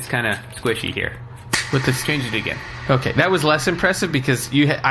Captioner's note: snaps boomingly